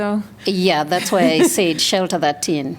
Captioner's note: laughter